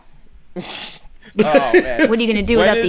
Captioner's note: laughter